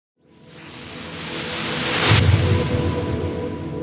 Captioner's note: whooshing